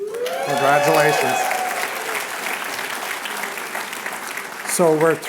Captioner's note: applause